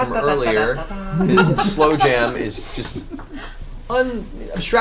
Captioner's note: laughs